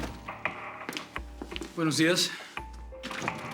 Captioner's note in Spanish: Ruido al abrir la puerta